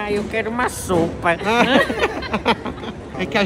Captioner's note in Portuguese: risos